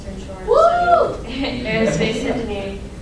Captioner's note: cheering; laughing